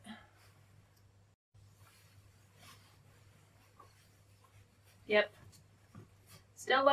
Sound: sound of putting on her jacket

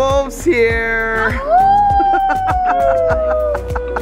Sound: laughing; howl

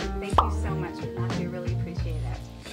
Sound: bubble pops

